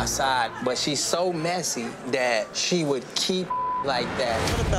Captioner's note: beep